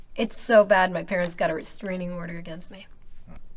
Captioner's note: none